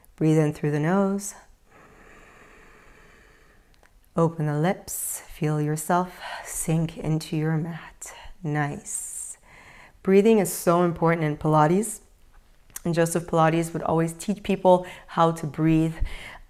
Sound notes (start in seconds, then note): 1.7 inhales